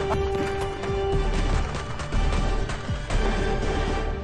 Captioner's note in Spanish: Tiroteo